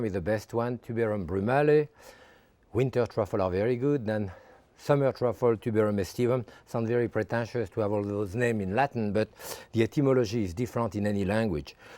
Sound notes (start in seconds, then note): none